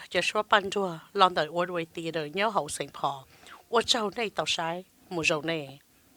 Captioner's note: breathing heavy